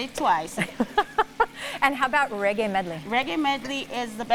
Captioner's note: laughs